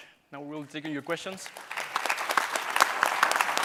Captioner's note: applause